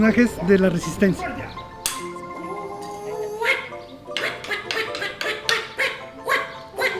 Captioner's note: marimba music; puppet voices fighting